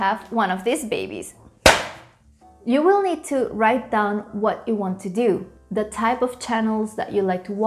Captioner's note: slap